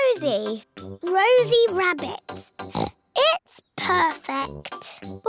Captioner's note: oinks